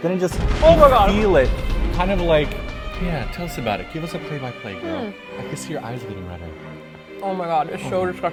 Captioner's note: bomb noise